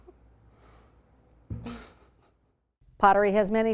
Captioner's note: laughing